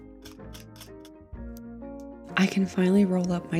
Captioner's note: soft music; brush scrapes against plastic